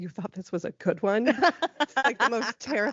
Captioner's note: laughing